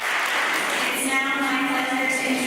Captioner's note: applause